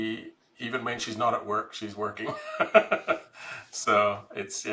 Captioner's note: laughs